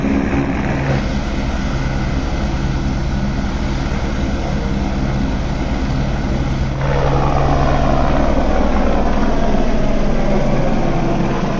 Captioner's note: helicopter taking off